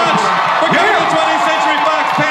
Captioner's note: audience cheers and applauds